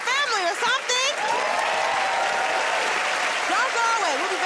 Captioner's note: cheers and applause